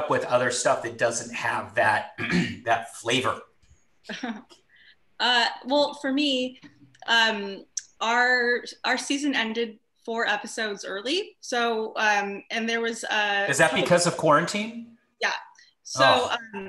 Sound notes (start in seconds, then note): 4.1 chuckles